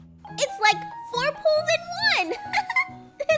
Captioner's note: laughs